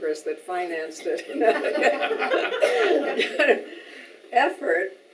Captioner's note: audience laughing